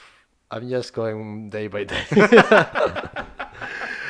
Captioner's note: both laughing